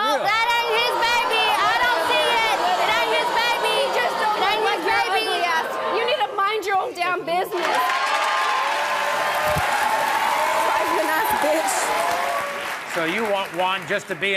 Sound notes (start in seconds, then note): 7.5 audience cheers